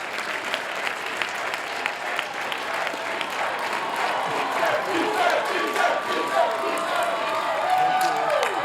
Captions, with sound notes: [CHANTING] Pfister, Pfister, Pfister, Pfister, Pfister, Pfister, Pfister, Pfister, Pfister, Pfister, Pfister, Pfister, Pfister, Pfister.